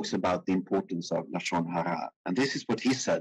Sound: speaking in foreign language

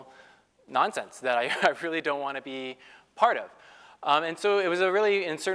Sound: laugh

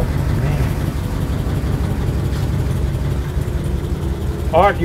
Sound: car engine purring

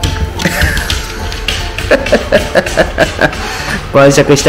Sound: laughs

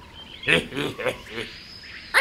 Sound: pig laugh

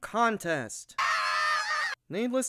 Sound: MABEL and SPINEL screaming

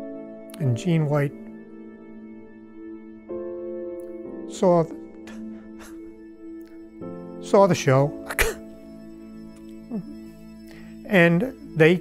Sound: sobbing

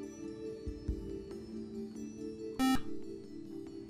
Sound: buzzer

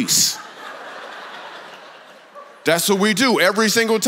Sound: congregation laughs

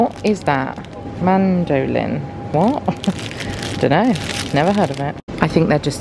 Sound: laughs

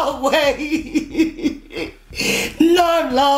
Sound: Becca cries

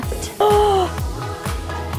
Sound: gasps; lively dance music

